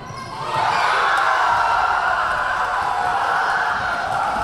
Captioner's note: Tigers cheering